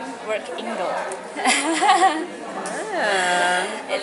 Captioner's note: laughter